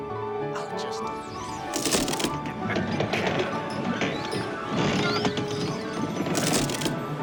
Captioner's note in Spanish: crujido de la pared